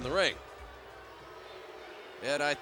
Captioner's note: crowd boos